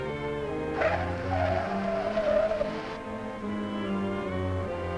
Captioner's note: car tires squealing